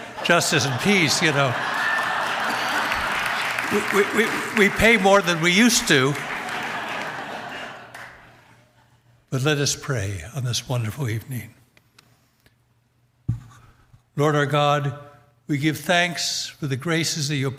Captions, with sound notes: for Director of Justice and Peace. (audience applauds) (audience laughs) You know, we pay more than we used to, but let us pray on this wonderful evening. Lord our God, we give thanks for the graces